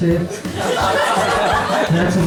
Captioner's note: laughter